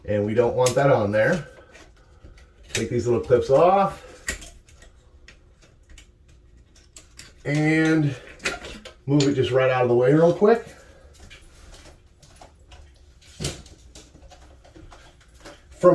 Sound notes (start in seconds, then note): 4.2 clips click; 12.9 rustling